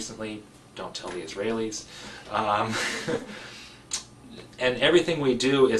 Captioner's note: laugh